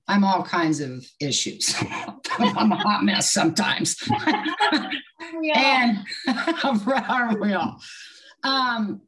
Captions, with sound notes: I'm all kinds of issues. I'm a hot mess sometimes (laughs). And I real.